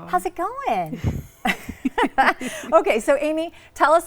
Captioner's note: both laughing